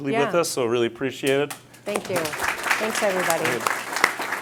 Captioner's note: audience applauds